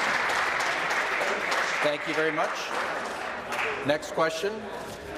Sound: applause

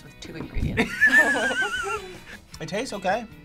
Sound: both laugh

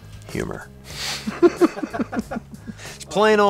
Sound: laugher

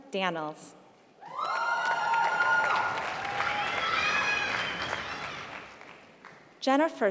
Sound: applause

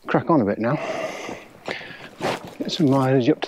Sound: breathes heavily

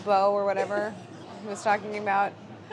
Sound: laughing

